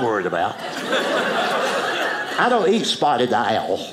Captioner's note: audience laughing